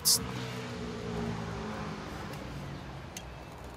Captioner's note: distant traffic noises